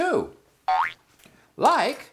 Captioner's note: boing!